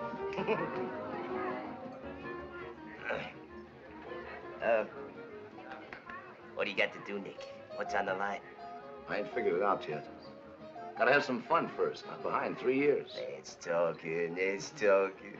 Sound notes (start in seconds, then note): 2.7 clears throat